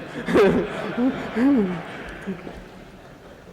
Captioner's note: laughter